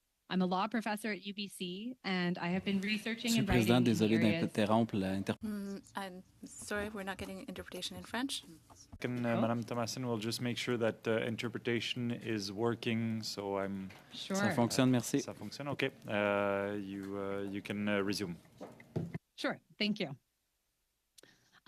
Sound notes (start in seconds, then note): 9.0 speaking French